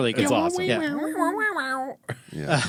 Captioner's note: imitating a woop woop